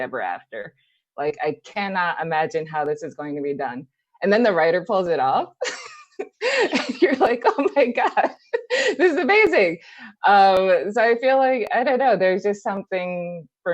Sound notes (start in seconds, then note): 5.7 laughs